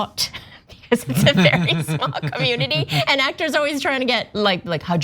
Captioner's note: laugh